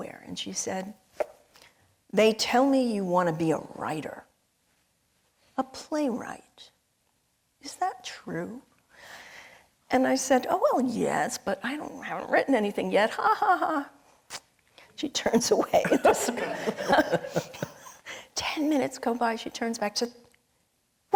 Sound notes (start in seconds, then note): 15.3 tutting; 15.9 audience and panelists laughing